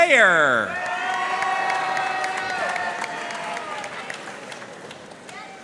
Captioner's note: audience cheering and applauding